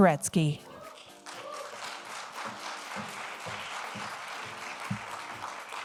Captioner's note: audience applauding